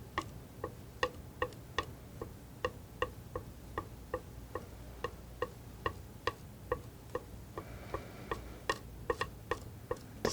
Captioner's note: tapping